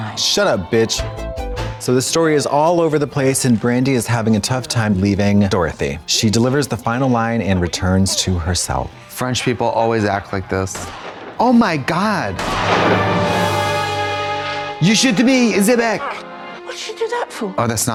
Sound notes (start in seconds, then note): 0.5 synth bop; 10.7 gun firing